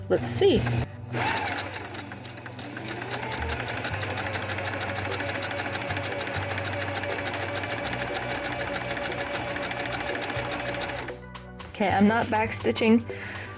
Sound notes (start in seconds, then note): 1.1 sewing machine noises